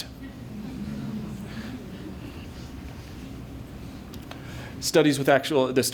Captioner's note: laughter